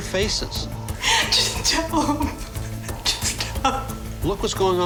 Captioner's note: crying